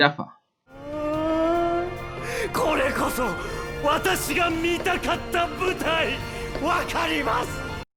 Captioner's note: intense giraffe noises in japanese